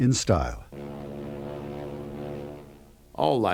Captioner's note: horn blaring